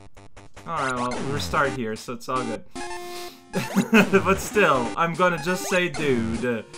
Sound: chuckles

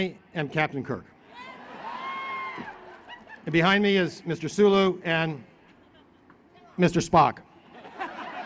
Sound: laughter

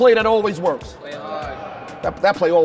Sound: overlapping chattering

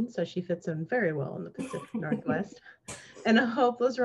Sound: laughs

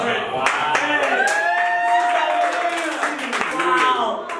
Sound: cheering

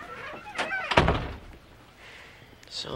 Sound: door slams

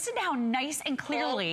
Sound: electronic voice

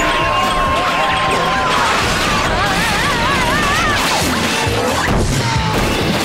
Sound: screaming

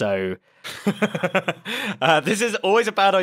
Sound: laughs

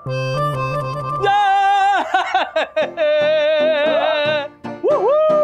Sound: cheering

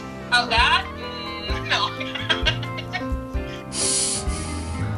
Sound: laugh

